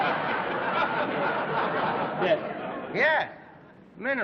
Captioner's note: laughter